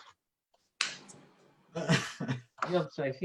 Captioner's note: laughing